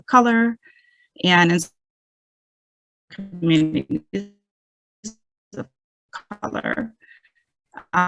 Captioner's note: audio cuts